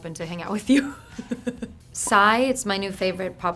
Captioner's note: laughing